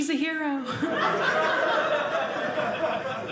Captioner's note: audience laughing